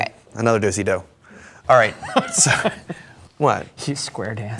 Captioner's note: chuckles